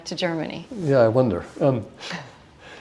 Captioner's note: chuckle